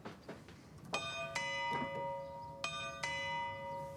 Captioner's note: clock chimes